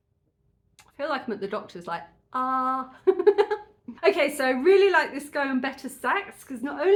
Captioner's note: laughing